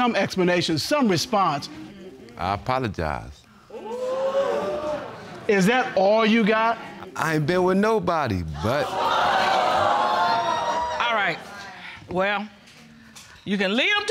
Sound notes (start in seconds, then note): 3.8 audience exclaims; 8.5 audience jeering